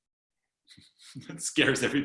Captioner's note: laughing